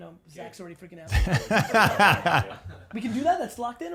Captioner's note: laughs